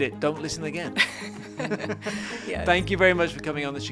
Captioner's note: both laughing